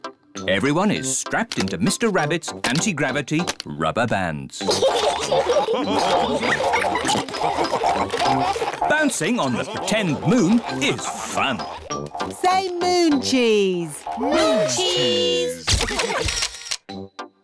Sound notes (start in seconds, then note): 4.6 all laugh